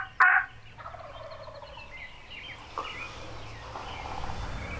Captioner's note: turkey gobbles